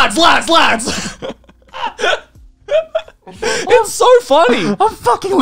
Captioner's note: both laugh